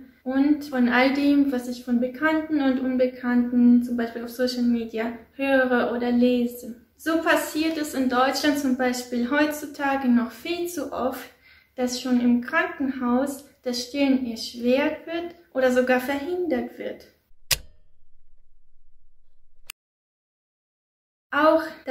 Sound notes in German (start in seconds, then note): 17.4 Click